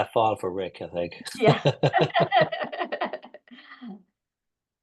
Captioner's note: laughing